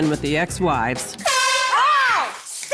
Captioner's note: horn blast